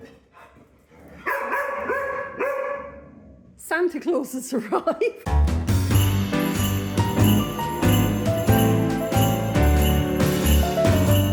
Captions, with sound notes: [dogs barking] Santa Claus has arrived. [jazzy Christmas music]